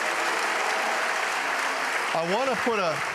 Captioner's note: applause